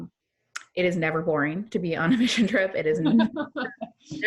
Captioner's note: laughs